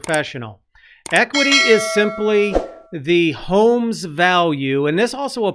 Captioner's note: ding